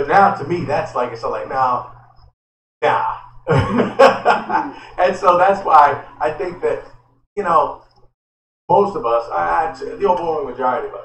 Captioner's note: laughter